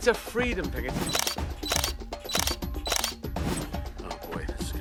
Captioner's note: shutter clicking